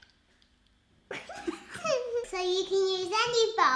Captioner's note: laughing